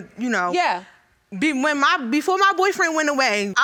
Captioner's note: stammering